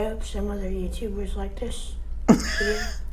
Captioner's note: laugh